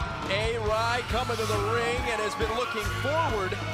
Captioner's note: crowd cheering